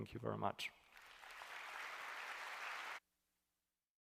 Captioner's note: applause